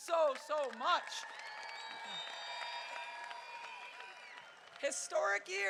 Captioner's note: crowd cheering